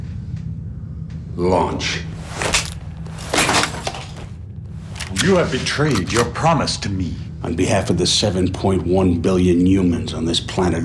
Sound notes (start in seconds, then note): 2.1 cracking